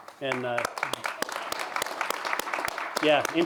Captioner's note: applause